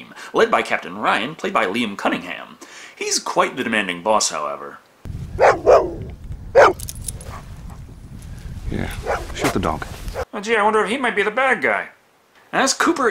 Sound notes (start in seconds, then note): 5.3 bark bark bark